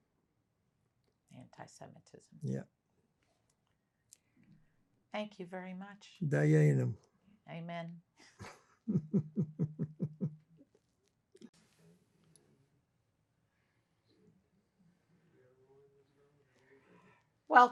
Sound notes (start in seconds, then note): 6.6 non-english